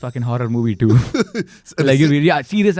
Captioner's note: laughs